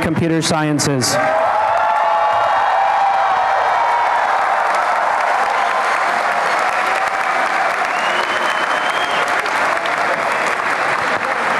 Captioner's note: applause and cheering